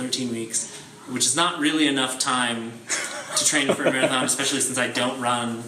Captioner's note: laughing